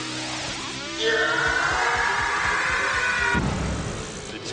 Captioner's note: random Scream